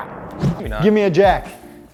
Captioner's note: equipment whooshes